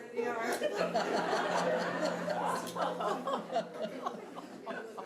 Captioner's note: audience laughing